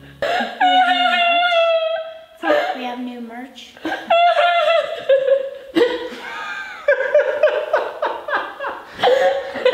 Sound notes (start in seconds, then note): 3.8 laughing